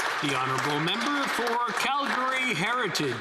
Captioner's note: some Applause